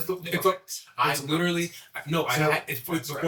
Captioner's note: mutters